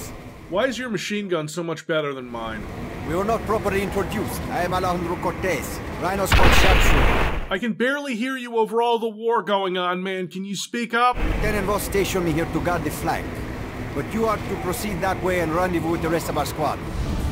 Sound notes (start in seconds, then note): 6.3 explosion